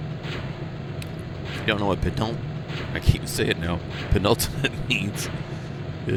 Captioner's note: laughs